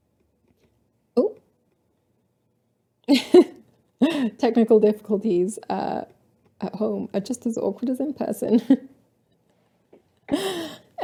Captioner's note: laughter